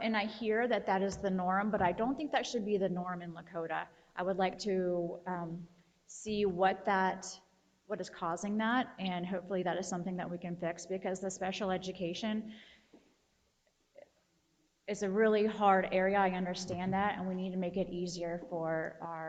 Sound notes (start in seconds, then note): none